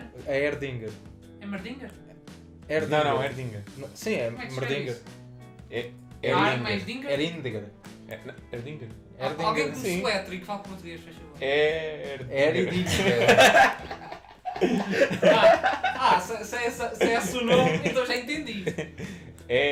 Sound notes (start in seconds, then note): 12.7 laughs